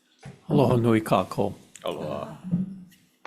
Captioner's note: speaking in foreign language